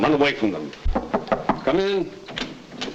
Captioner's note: knocking at door